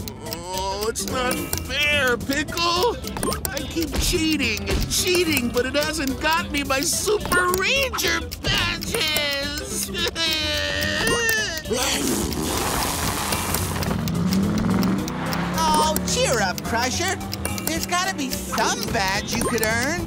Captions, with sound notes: Oh, it's not fair, Pickle. I keep cheating and cheating, but it hasn't got me my Super Ranger badges. [crying] [blowing nose] Oh, cheer up, Crusher. There's gotta be some badge you could earn.